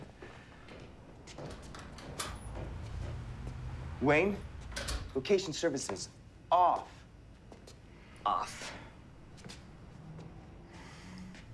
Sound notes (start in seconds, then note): 2.3 door opening and closing